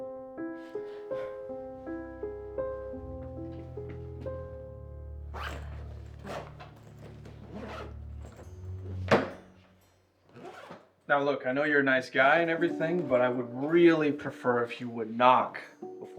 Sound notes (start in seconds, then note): 0.1 dramatic music; 5.2 zipper rasping; 9.2 suitcase thuds